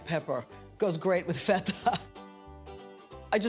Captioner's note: chuckles